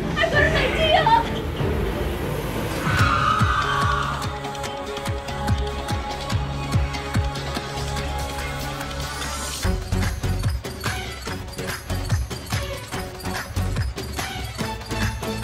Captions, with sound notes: I've got an idea! [GHOST SCREAMS] [ENERGETIC MUSIC]